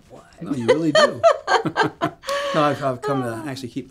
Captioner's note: Betty laughs